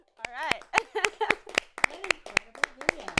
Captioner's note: laughs